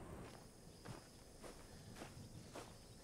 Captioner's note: gravel crunching